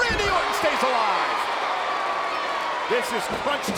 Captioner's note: crowd exclaiming